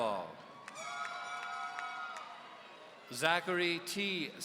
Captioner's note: audience cheering